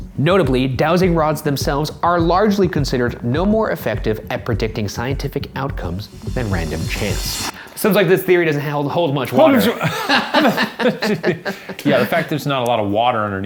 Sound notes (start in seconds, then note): 9.5 laughing